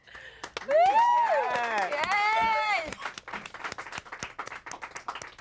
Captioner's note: everyone applauds and cheers